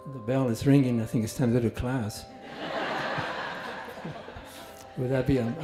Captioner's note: laughter